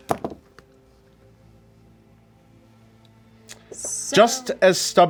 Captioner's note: pen thuds on the desk